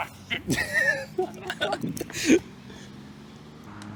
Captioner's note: laughing